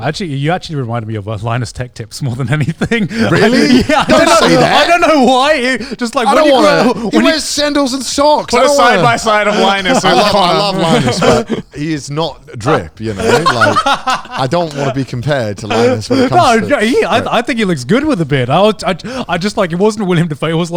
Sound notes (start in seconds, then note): 8.6 laughing